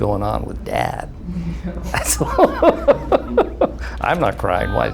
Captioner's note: laughing